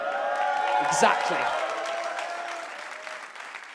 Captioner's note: audience cheers and claps